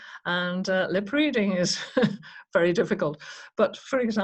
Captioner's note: chuckles